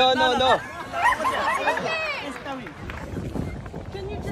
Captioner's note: laughter